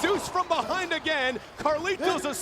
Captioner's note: Taz gasping